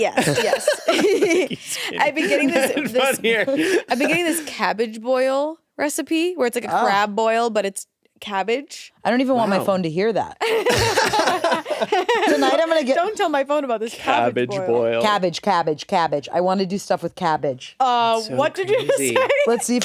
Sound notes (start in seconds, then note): 0.0 laughs; 10.5 everyone laughs